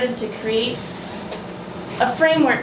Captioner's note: none